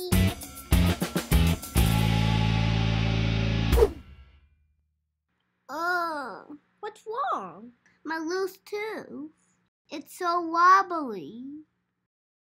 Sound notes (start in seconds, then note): 0.7 dramatic music; 3.7 loud swoosh